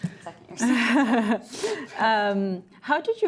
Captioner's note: ladies laughing